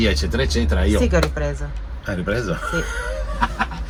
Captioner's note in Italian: risate